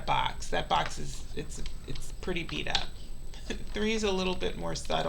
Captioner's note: laughs